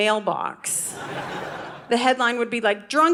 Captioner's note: audience laughing